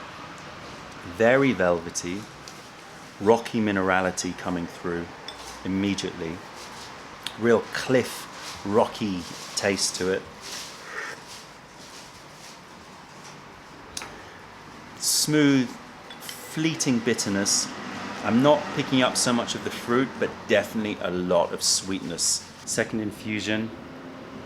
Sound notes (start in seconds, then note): 10.3 sips tea